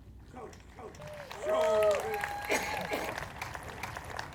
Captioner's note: applause